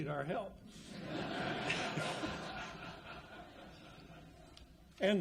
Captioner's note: audience laughs